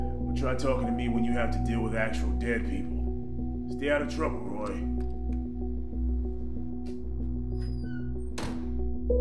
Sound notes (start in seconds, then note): 4.7 door opens; 7.4 door creaks shut